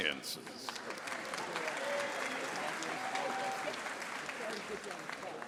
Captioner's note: audience applauding